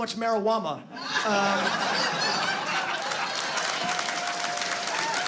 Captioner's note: laughter